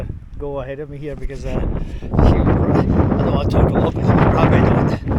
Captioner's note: too much wind noise